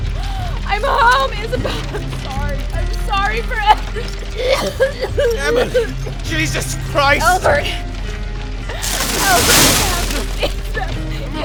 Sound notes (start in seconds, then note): 4.3 Emily violently coughing